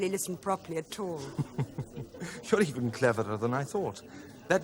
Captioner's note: laughs